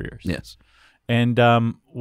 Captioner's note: voiceover